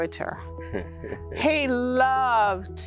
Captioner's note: chuckles